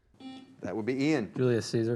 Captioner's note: buzzer